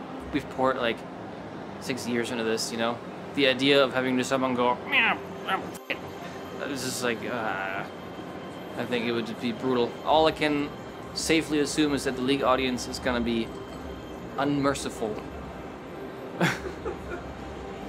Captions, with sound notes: We've poured six years into this, you know? The idea of having someone go... [GRUMBLES] "**** it." That is just like… [GROANS] I think it would just be brutal. All I can safely assume is that the League audience is going to be unmerciful. LAUGHS